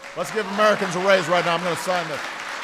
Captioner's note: applause